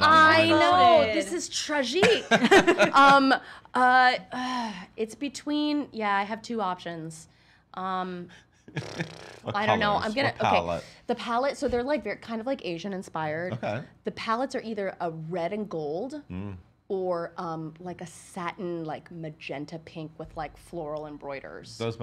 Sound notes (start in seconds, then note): 8.8 lip bubbling